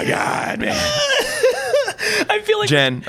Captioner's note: laughs